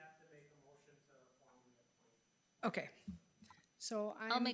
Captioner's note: speaker speaks faintly